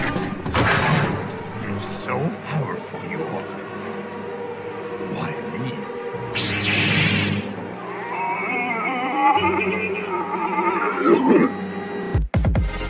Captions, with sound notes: If so powerful you are, why leave? Aaaaaaaahhhh!!! (coughs)